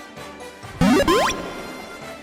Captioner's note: Pokédex Loads